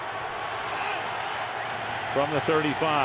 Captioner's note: crowd cheering